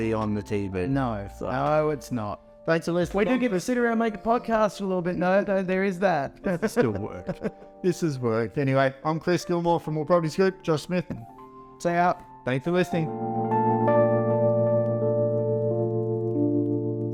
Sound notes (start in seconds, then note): 6.4 laughs; 13.5 mellow music continues